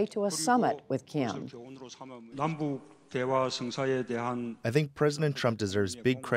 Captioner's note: through translator